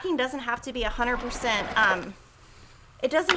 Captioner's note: machine starts up